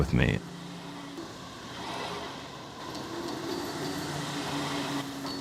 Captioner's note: gym equipment whirring